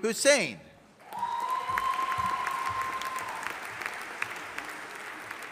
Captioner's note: audience applauding